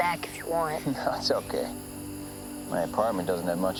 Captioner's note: chuckles